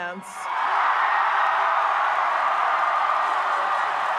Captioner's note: audience cheers